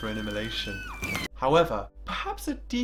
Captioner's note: screaming